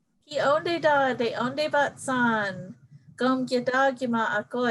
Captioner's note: speaking in native language